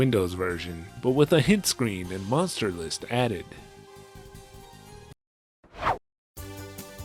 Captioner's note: whoosh